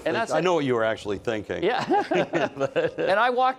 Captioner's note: laughs